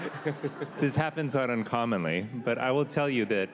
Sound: laughter

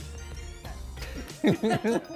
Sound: all laughing

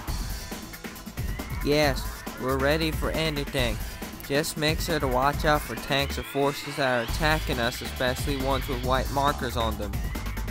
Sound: texan accent

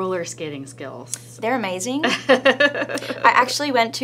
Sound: laughter

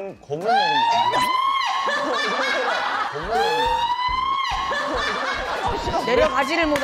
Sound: screams

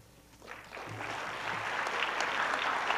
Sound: applause

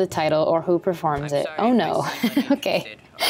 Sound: chuckles

